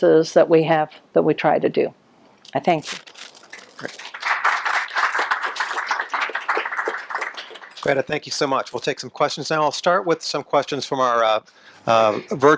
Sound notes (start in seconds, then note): 3.4 applause